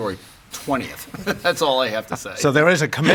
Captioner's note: chuckles